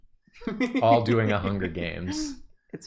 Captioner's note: laughing